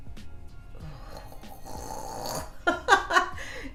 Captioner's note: gurgling; laughing